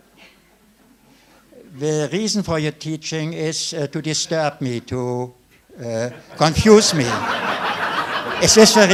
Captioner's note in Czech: smích